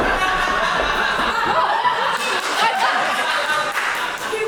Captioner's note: audience laughs